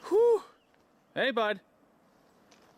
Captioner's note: person shouting